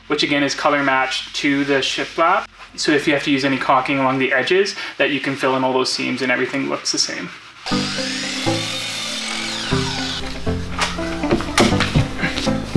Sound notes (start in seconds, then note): 7.6 electric saw screeching